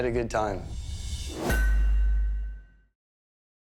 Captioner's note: clang